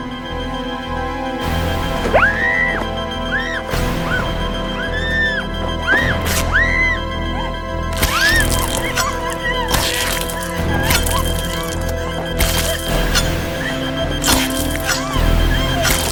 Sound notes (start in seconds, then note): 2.1 Nicki screaming; 4.9 dramatic music; 5.8 Nicki screaming